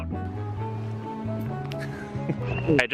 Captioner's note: laughing